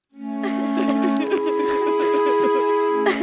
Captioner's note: crying